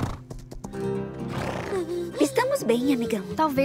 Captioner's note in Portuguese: cavalo resfolegando